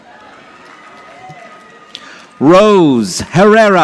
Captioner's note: audience applauding